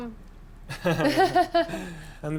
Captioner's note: both laugh